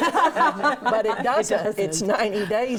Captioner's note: laughing